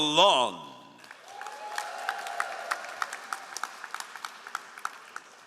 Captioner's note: all applauding